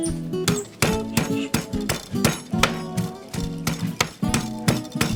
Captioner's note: rolling pin thudding